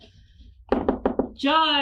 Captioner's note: knocking on door